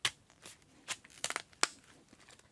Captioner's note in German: Knarzender Klang